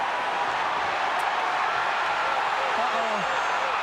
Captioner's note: crowd cheers